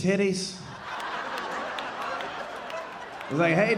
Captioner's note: audience laughing